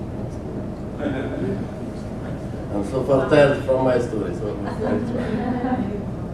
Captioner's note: laugh